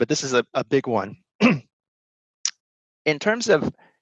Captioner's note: clears throat